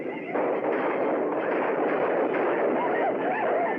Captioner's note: gunshots Continue; war Whoops Continue |